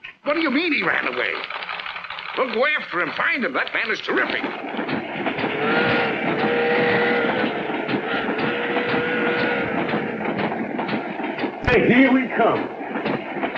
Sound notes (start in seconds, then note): 5.0 train whistling